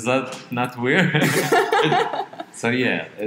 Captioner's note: both laugh